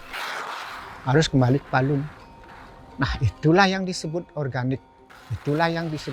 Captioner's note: speaking foreign language